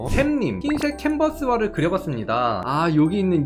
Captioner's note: voiceover